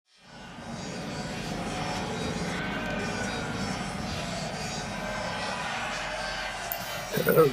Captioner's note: chaotic noise. Voices, sounds, fading in and out. One voice cuts through